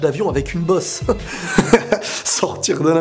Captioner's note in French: rires